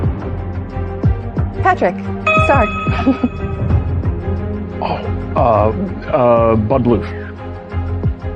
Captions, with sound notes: Patrick... Star. (GIGGLES) Oh! Uh, uh... Bud Bluff.